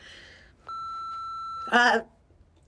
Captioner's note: answering machine beeps